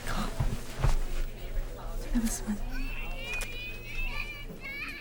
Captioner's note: whining children